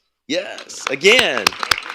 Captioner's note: applause